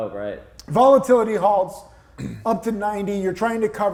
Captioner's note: clears throat